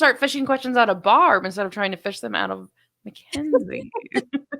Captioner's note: laughing